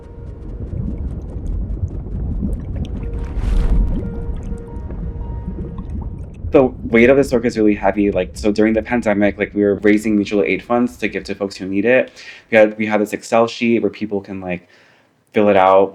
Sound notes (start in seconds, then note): 2.6 underwater bubbling